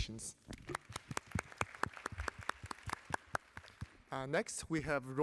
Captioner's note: applause